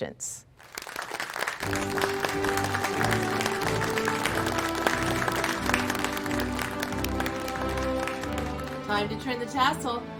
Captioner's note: applause